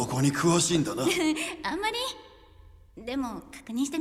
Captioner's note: laughs nervously